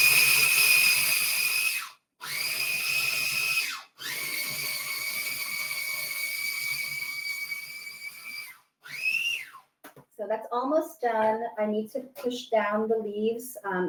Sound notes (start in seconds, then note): 2.2 food processor whirring